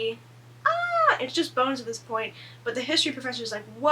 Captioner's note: fake scream